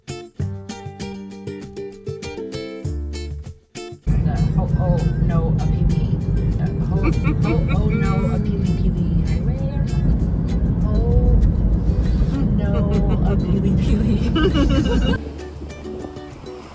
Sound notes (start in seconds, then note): 5.2 sounding out the hawaiian pronounciation; 6.8 laughing; 14.1 laughing together